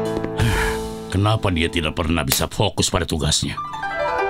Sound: Master Bread sighs; soft, relaxing music

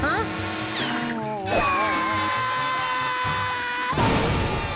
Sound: screaming

